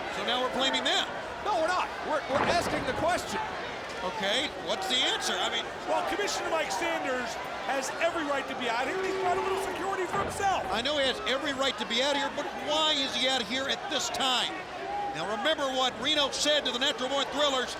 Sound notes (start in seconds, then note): none